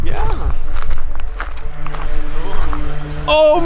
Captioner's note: airplane engine running